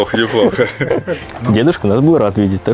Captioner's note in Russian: смеются